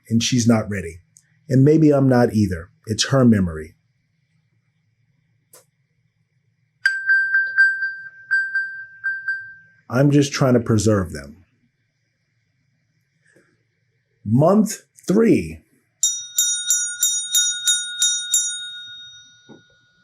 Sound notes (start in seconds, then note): 6.8 electronic bell; 16.0 bell ringing